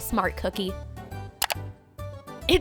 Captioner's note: clicking